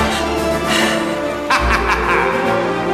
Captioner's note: Feuermann laughs; Feuermann lacht